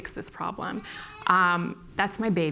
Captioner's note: baby crying